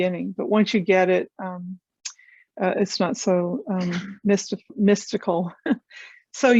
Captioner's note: chuckles